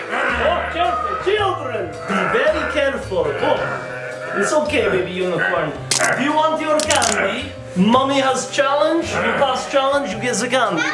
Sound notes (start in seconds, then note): 6.7 bones crackling